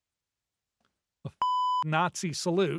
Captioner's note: beep